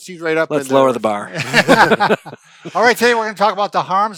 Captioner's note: men laughing